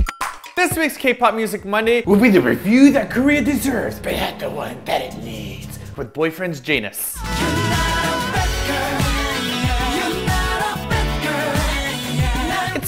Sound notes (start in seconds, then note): 0.0 playing with spoons music; 0.8 in deep voice